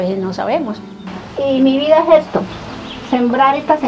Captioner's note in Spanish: Voz de mujer